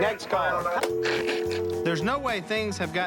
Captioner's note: dial tone